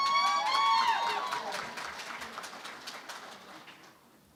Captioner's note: cheering and Applause